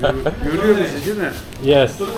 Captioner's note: speaking Turkish